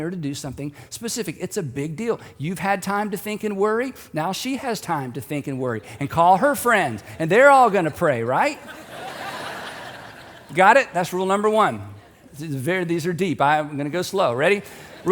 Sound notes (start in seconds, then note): 7.4 audience laughing